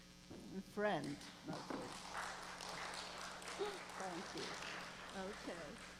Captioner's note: applause